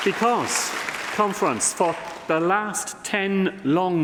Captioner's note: applause